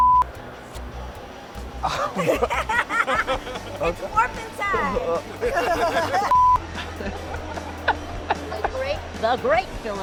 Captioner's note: laughter